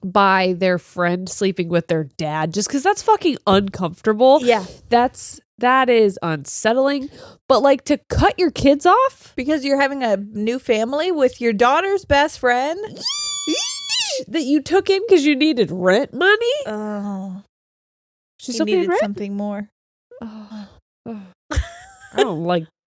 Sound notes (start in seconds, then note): 12.9 squeal